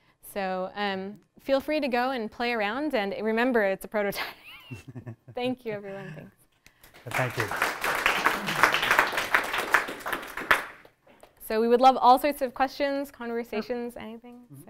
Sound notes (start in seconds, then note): 4.6 laughs; 6.8 applause